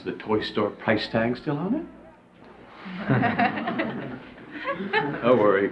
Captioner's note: class laughs